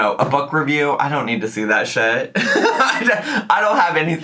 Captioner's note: laughs